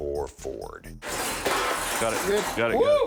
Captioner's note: metal crashing